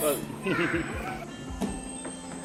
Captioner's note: upbeat music; laughs